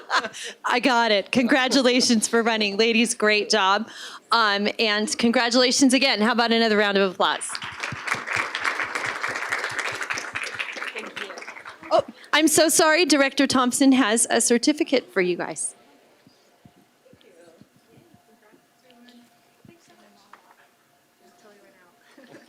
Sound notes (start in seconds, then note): 11.9 applause